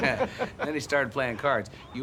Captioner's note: laughing